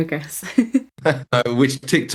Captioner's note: laughs